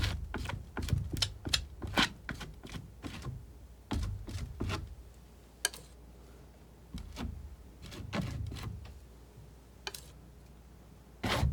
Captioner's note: scratching